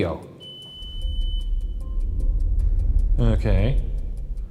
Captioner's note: device beeps